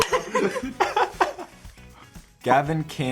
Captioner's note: all laughing